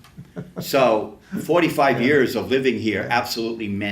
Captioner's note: laughs to self